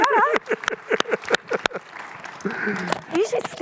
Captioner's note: audience applauds